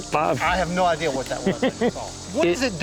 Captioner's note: laughs